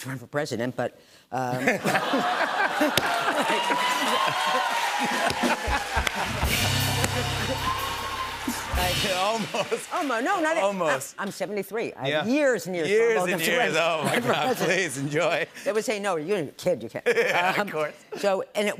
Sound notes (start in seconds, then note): 1.5 laughter; 3.5 cheers and applause